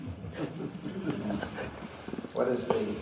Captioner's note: laughs; laughter